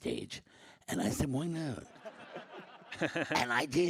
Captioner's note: audience laughs